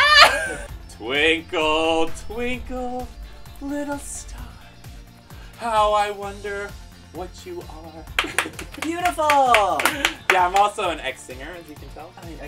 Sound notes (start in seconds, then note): 8.1 clapping